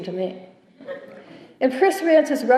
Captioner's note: chuckling